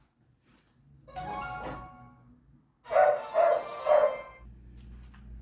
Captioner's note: clash royale sound